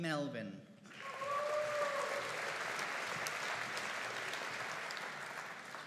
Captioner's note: audience cheering and applauding